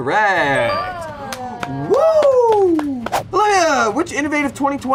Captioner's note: buzzer rings; group cheers